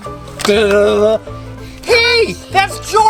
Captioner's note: announcer makes drum roll with mouth